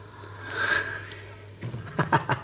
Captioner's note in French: Rires